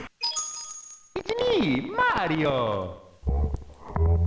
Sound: slight sound corruption; Bowser laugh slowed down

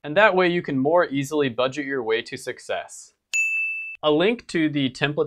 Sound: bell dings

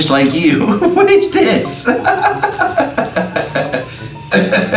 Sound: laughs

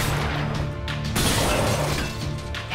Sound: thudding, shattering

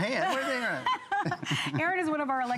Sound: laughter

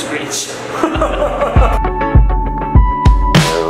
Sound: laughing; fun rhythmic music

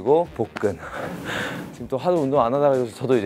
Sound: pant

